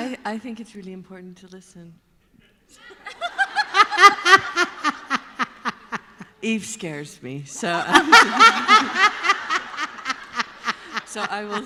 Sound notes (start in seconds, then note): 7.7 laughter